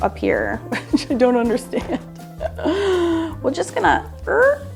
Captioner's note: laughs